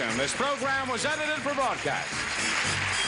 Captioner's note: audience clapping and cheering